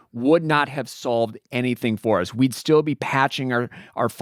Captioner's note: none